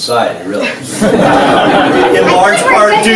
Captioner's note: everyone laughs